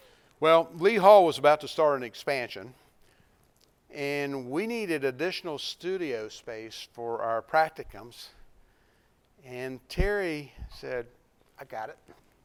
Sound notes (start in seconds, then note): none